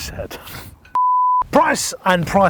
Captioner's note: beep